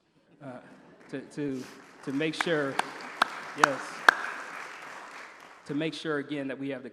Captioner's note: applause